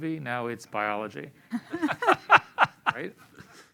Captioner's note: laughter